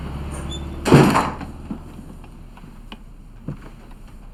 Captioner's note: door clicking; steps clattering